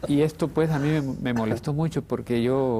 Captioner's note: ríe